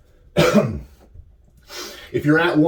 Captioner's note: coughs